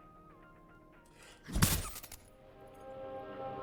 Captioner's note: glass shatters